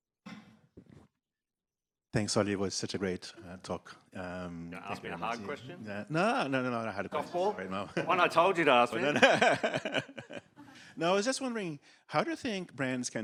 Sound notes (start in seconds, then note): 8.8 laughs